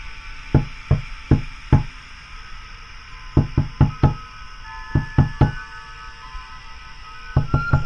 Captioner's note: crickets, wind chimes, knocking on window